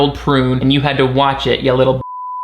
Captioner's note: beep